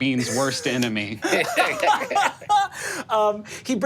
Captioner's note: laughing